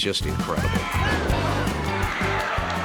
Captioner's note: audience cheering; bright energetic music